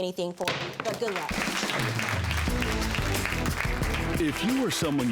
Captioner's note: audience clapping